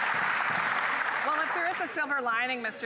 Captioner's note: applause